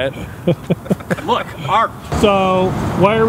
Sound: laughing

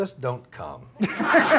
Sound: laughs

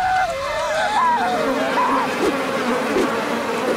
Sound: children squeal; fireflies buzz

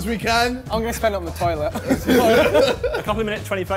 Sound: laughs

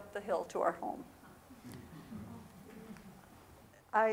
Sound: chattering

